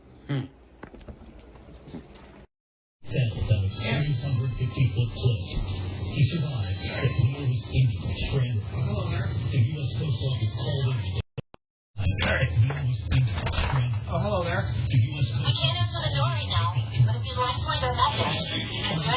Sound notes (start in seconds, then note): 0.1 Ring doorbell chimes play; 7.9 TV plays in background